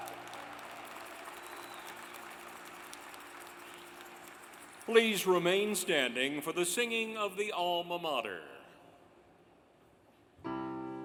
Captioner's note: applause